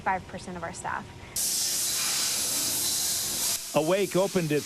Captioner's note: machinery hissing